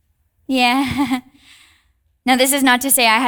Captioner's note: chuckles